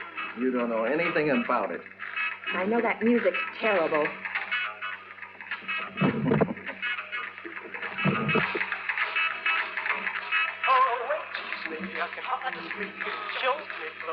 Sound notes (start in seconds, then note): 5.6 john chuckles and raise the volume; 10.2 song on radio - rockabilly continues